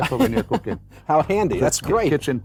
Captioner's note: laughs